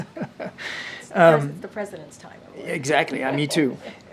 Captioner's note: laughs